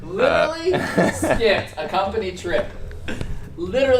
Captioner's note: laughs